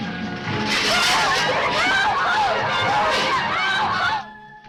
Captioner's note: passengers shouting